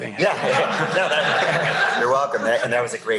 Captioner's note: laughter